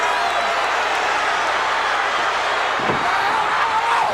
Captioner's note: crowd cheers